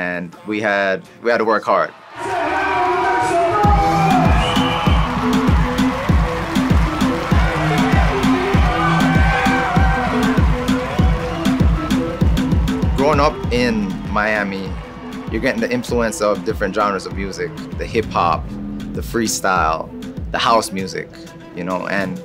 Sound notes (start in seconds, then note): 4.4 deep bouncy music; 6.4 crowd cheering energetically